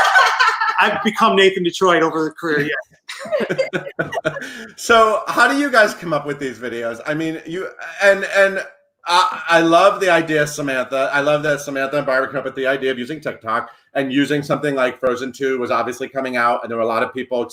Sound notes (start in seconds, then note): 0.0 laughing; 3.1 all laugh